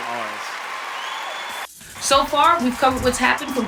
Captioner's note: cheering